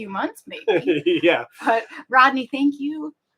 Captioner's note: giggles